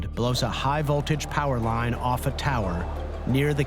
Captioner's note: none